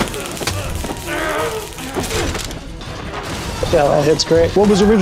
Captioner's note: fighters grunting